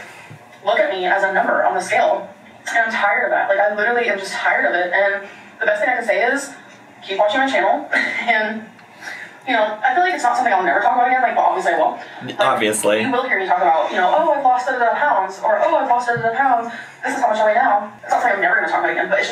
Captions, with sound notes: People just look at me as a number on the scale, and I'm tired of that. Like, I literally am just tired of it, and the best thing I could say is keep watching my channel, (laughing) and, you know, I feel like it's not something I'll never talk about again. Like, obviously, I will. - Obviously. - Like, you will hear me talk about, you know, "Oh, I've lost da da da pounds," or, "I've lost da da da pounds. This is how much I weigh now.' It's not like I'm never gonna talk about it again,